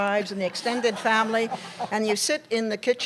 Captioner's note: laughter